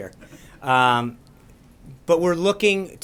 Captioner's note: laughter